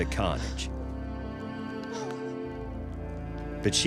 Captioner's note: crying